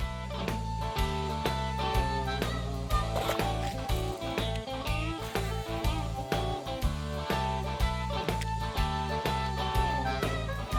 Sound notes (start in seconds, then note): 0.2 upbeat country rock music; 3.0 water splashing; 3.4 upbeat country music